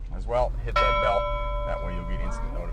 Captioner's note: bell dings